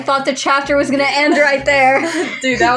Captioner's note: snicker